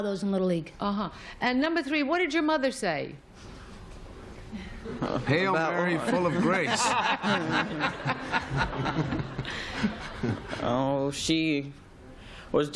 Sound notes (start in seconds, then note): 7.9 laughter